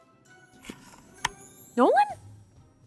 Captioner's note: lens clicks